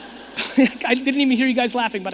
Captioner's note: audience laughing